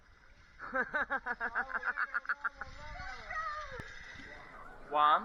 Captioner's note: laughter